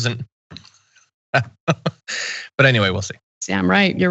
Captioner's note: laughs